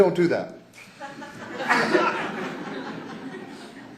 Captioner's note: laughter